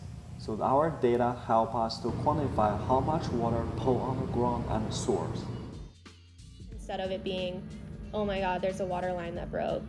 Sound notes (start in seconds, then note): 2.9 louder background hum